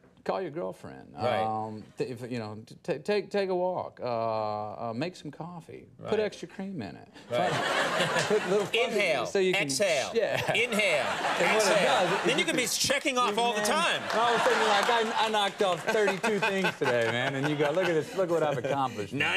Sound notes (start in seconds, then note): 7.2 studio audience laughs; 14.1 studio audience laughs